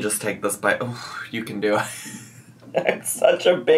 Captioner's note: laughs